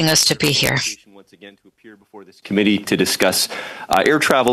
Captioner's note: speaking French